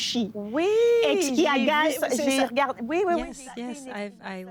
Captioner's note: speaking French